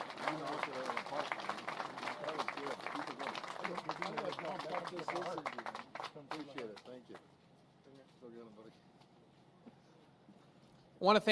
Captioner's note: applause